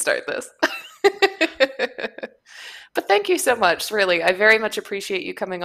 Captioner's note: laughs